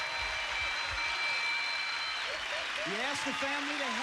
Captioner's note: cheers and applause